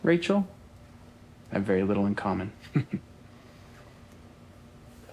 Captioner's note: chuckles